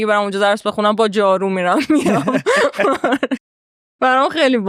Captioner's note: laughs